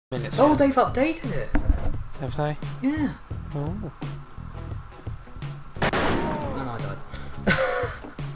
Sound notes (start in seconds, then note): 5.8 gunshot; 7.4 pathetic laugh